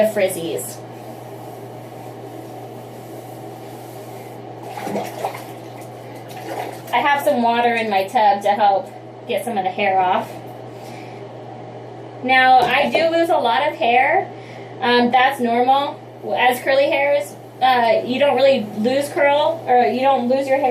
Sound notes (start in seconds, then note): 4.3 water swishing